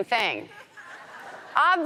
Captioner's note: audience laughs